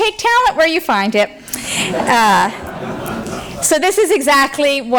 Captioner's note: laughter